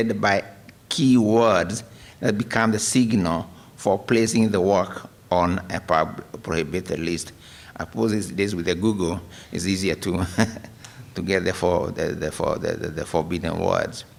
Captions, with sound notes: BY KEY WORDS THAT BECOME THE SIGNAL FOR PLACING THE WORK ON A PROHIBITED LIST. OF COURSE, THESE DAYS WITH GOOGLE, IT'S EASIER TO [LAUGHTER] GET THE [STUTTERING] FORBIDDEN WORDS.